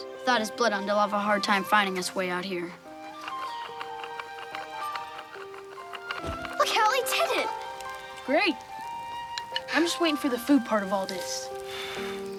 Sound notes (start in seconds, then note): 6.3 air wooshes